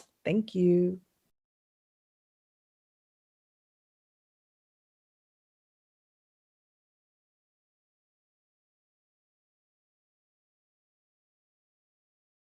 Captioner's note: silence as movement piece begins